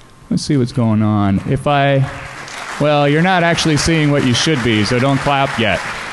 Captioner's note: applause